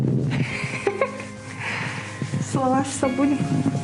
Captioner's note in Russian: смех